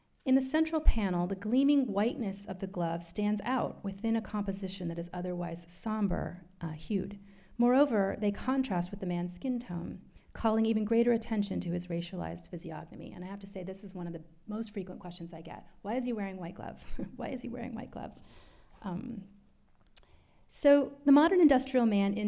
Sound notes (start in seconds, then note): 16.9 chuckles